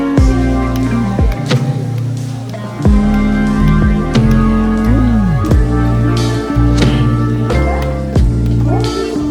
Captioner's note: hand clapping